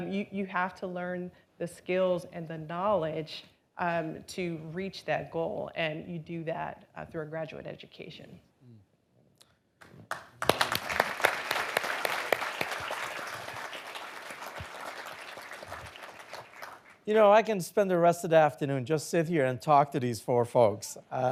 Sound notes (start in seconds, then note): 10.0 audience applauding